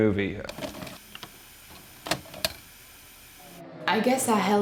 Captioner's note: VHS player clicks